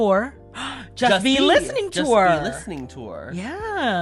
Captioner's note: gasp